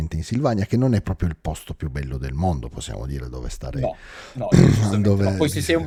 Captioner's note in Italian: schiarire la voce